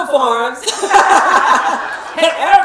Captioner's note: laughing